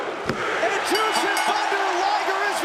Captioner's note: bell ringing